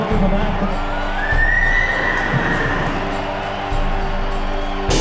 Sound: horse whinnying

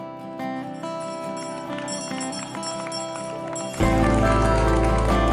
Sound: bell ringing; people clapping; upbeat music

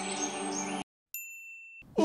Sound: bell chime

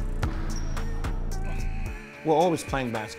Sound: timer buzzes

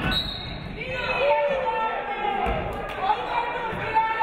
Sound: referee whistles

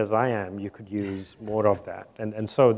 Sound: attendees chuckle

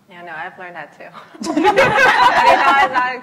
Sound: laughs

